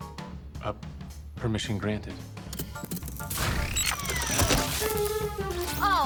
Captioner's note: mar17 whirs